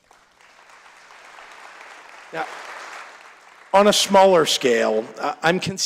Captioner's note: applause